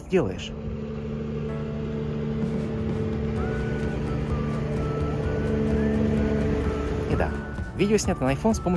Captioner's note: boat sound